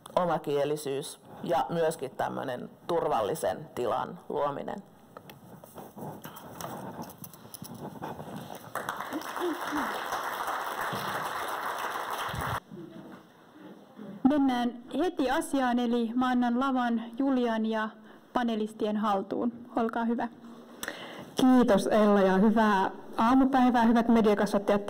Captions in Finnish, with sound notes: omakielisyys ja turvallisen tilan luominen. [Yleisö taputtaa.] Mennään heti asiaan, eli annan lavan Julian ja panelistien haltuun. Olkaa hyvät. Kiitos, Ella, ja hyvää aamupäivää hyvät mediakasvattajat -